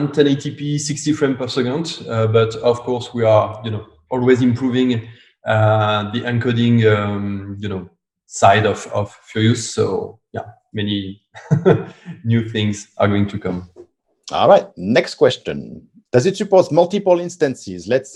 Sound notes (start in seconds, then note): 11.3 laughs